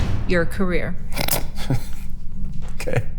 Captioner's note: group laughing